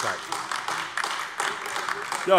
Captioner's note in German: Beifall AfD